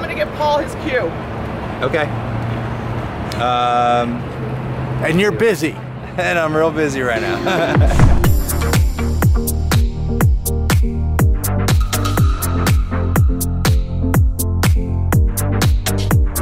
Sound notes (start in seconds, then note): 7.1 laughs; 7.9 upbeat music